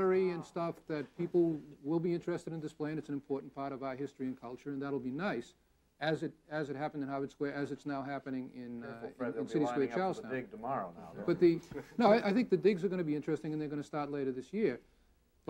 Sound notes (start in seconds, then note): 11.6 audience laughing